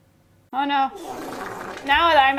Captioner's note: comical squelching